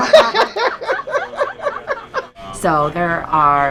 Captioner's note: laughing